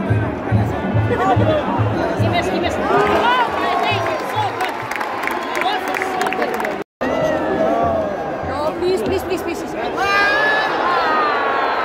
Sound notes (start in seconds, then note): 4.8 clap